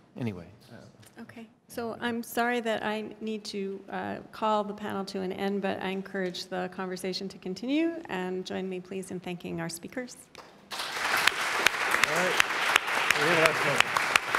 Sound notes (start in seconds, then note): 10.6 clapping